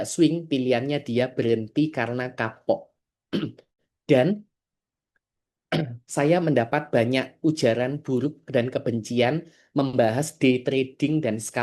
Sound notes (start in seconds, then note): 3.3 berdehem